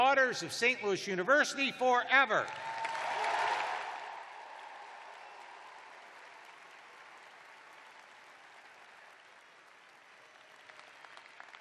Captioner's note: cheers and applause